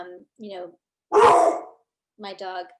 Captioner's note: dog barks